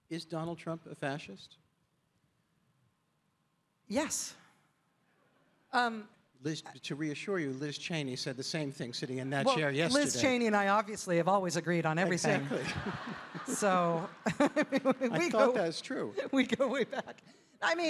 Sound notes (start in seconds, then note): 12.2 audience laughing; 12.2 chuckles